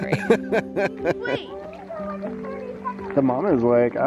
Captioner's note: chuckles